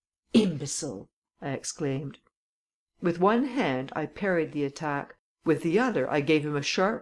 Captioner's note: clears throat